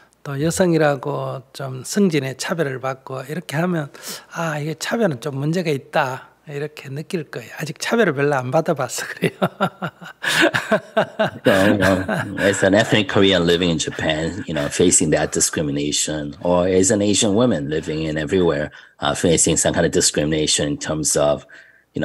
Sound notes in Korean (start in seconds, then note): 14.6 스님 웃음